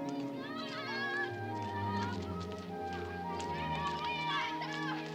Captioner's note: children chattering